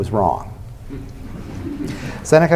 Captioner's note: laughter